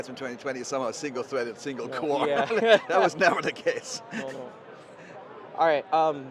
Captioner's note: laughs